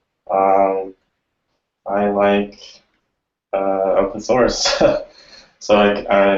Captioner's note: laughs